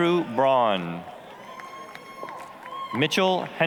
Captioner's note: applause, cheering